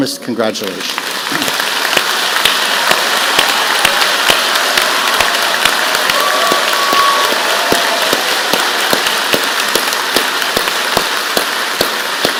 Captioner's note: applause